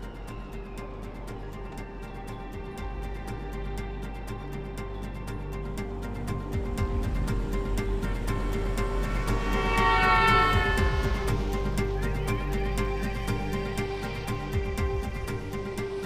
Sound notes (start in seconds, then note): 9.6 car horn blaring